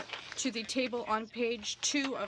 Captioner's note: speaking French